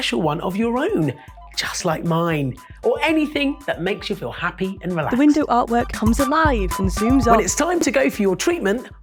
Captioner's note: none